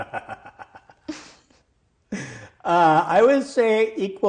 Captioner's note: laughing